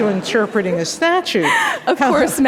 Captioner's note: laughter